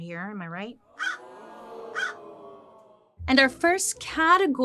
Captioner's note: Joan cawing; audience groaning